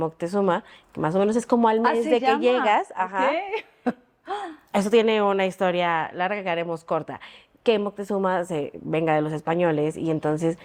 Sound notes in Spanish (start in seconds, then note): 3.5 risas